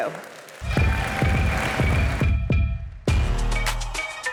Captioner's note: applause